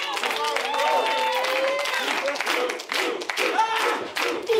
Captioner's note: audience chanting